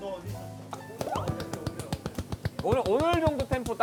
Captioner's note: applauding in pure happiness